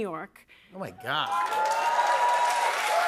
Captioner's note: cheers and applause